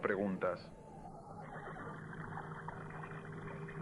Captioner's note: horse whinnying